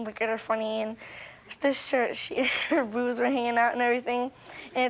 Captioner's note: chuckles